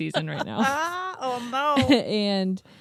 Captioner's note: laughs